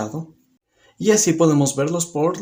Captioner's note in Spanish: Silencio